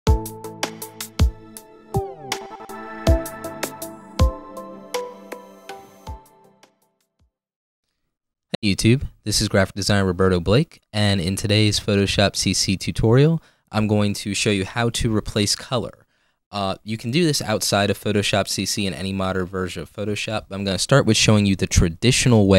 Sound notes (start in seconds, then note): 0.1 electronic music; 8.5 voiceover